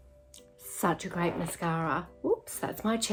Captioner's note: chair creaking